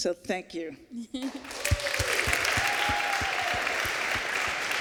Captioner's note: applause